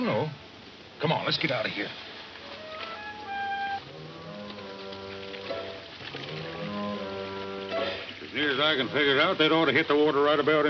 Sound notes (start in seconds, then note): 2.1 plucky western music; 6.0 water running